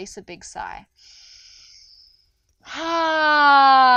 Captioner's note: inhales deeply